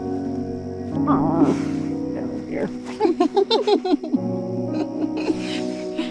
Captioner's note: girls giggling